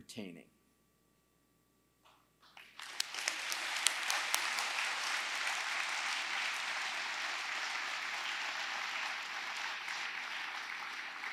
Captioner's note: applause